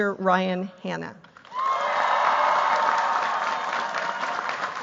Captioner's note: cheers, applause